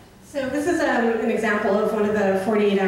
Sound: voiceover

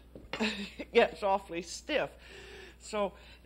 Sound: chuckles

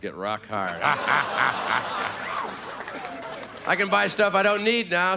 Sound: audience laughing; playful grunting

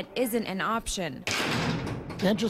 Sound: nats door slam

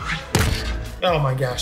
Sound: thud

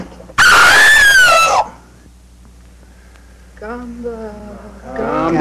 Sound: woman screams

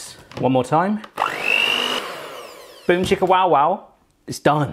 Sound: mixer whirs

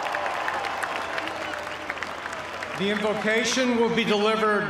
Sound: cheers and applause

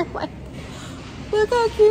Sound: laughs

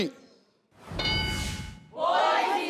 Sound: screen dings

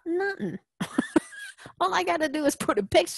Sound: laugh

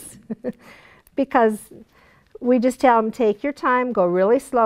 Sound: chuckle

